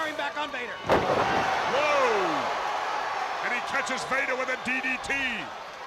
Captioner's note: crowd cheering